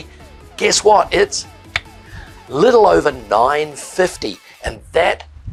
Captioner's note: clicks